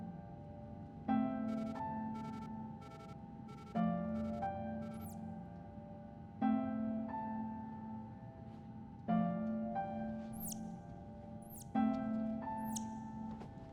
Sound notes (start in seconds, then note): 1.1 device beeping